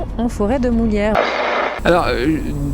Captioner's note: radio noise